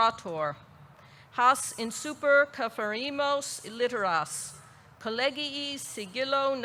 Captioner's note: speaks in foreign language